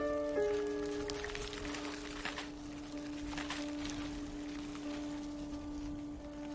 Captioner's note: ice crackling